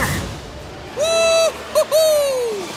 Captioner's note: yelping